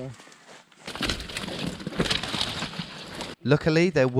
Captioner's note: branches crunching